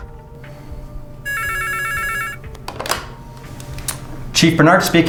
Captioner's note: phone clanking; phone ringing